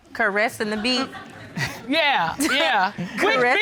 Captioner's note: chuckles